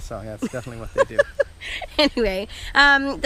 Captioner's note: laughs